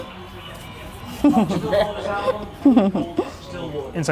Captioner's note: chuckling